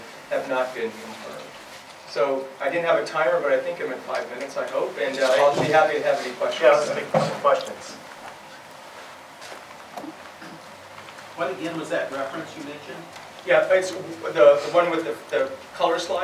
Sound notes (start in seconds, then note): 6.8 voiceover; 11.4 voiceover